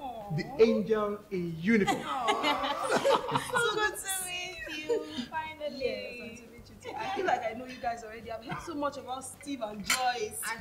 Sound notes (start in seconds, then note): 1.8 laughter